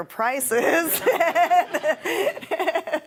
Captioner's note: laughing